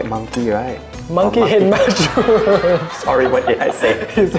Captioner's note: laughs